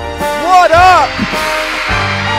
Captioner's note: more audience screaming